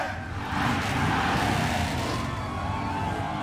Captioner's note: crowd cheering